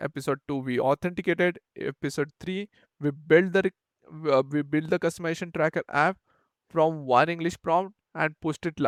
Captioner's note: English